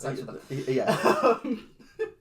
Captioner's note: laughs